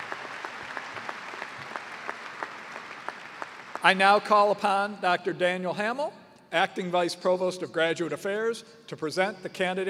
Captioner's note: cheers and applause